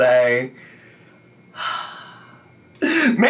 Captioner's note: sighs